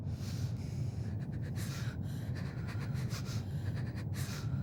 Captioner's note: Ira gasps